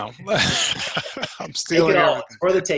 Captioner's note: laughs